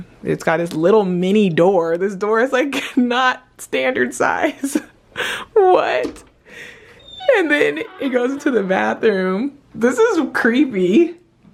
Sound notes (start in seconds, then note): 4.4 laughing